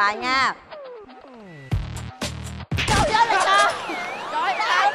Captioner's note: surprise sound